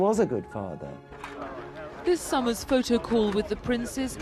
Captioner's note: voiceover